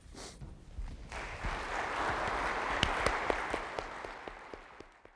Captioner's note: applause